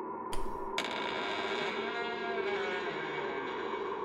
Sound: wood squeaking

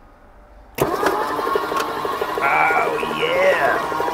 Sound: engine starts

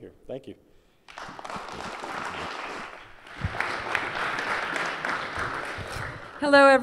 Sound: applause

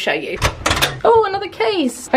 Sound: door clicking

